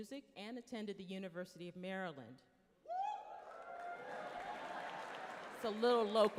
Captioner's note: some hoots and yelling